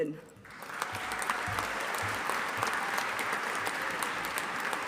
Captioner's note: audience applauding